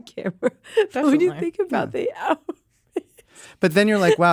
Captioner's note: laughs; laughs